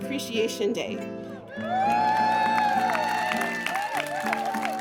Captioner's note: crowd cheers